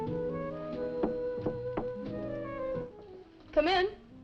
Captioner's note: knuckles rapping